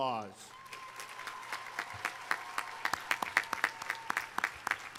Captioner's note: audience applauding